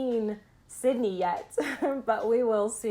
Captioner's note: laughing